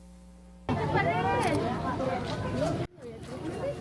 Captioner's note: camera shutter sound; non-english speech